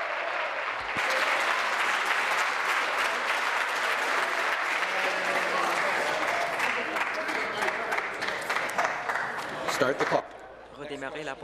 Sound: applause

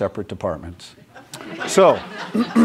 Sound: laughter

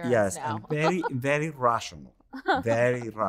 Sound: laughing

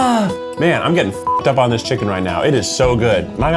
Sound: beep

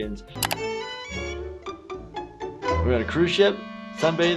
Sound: mouse clicks

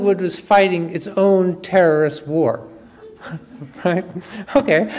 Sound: audience chuckles

